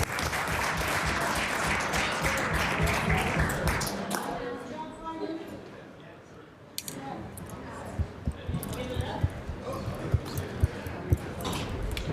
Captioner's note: applause